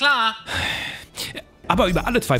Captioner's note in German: Seufzen